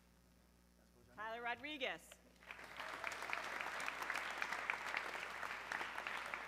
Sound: audience clapping

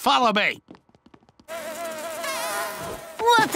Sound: buzzing

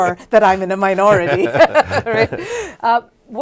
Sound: both laugh

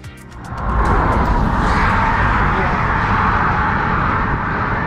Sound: car engine revving

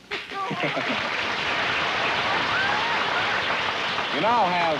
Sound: applause

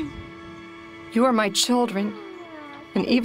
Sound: children laughing

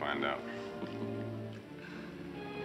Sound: chuckling

